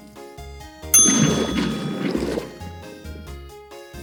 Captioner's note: ding